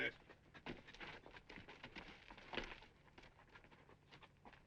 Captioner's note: horse hooves clopping